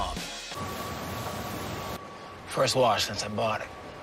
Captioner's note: car wash noises